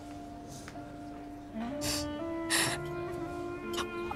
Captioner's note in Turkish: Ağlıyor